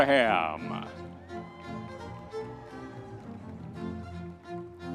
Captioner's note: audience members cheering; classical orchestral music